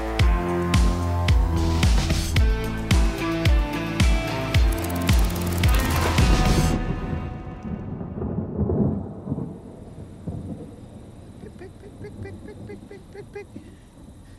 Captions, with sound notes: (thunder rumbles) (thunder cracks) (crickets chirp) - Pig, pig, pig. Pig, pig, pig. Pig, pig, pig, pig.